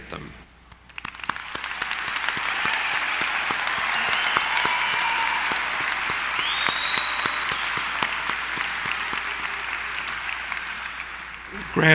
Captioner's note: applause